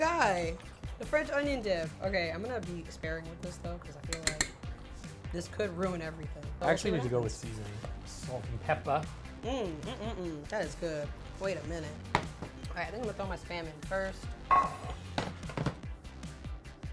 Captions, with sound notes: The guy. The French onion dip. Okay, I'm gonna be sparing with this though 'cause I feel like (spoon taps) this could ruin everything. - I actually need to go with seasoning, salt and pepper. - That is good. Wait a minute. All right, I think I'm gonna throw my spam in first.